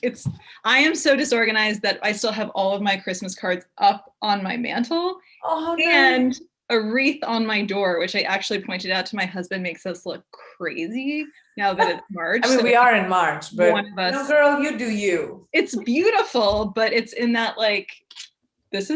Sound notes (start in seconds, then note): 11.7 laughing